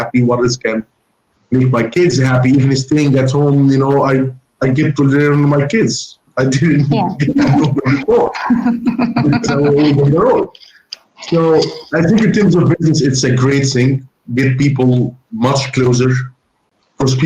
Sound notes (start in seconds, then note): 8.6 laughs